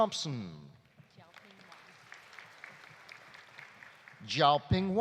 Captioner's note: audience applauding